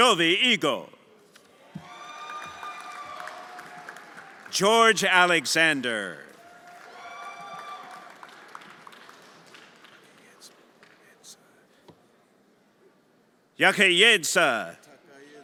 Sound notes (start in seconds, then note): 2.3 everyone applauding and cheering; 7.2 everyone applauding and cheering